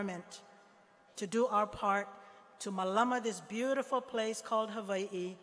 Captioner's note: speaking hawaiian